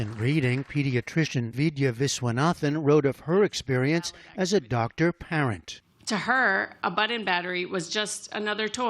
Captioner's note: applause